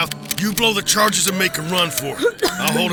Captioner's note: Emily wheezes